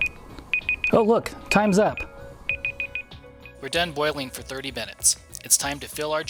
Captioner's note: alarm